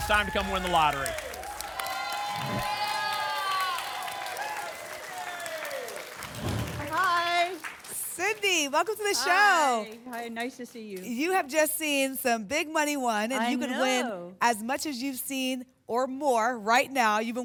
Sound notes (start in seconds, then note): 1.3 applause and cheering; 2.3 whoosh; 3.4 applause and cheering